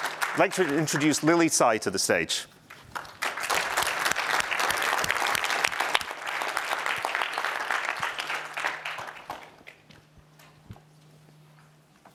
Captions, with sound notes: I'd like to introduce Lily Tsai to the stage. [APPLAUSE]